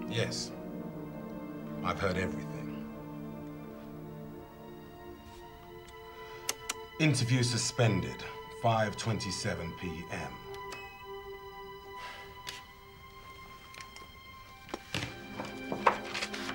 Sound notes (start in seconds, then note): 5.9 recorder button clicking; 10.5 recorder beeping; 11.7 Phil sighing; 13.1 soft orchestral music